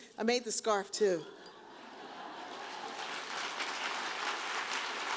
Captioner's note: audience applauds